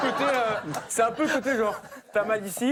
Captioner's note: audience laughter